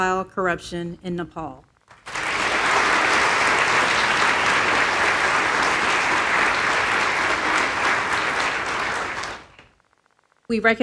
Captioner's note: applause